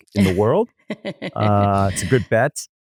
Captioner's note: laughs